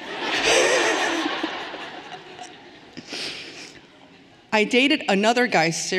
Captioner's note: everyone laughing cheerfully